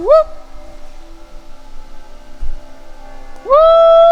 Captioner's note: person howling